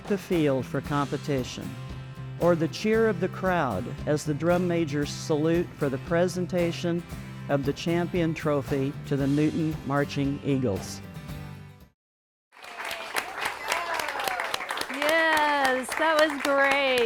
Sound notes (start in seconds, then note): 12.5 applause